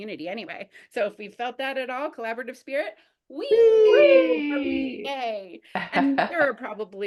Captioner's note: multiple voices say WHEEEE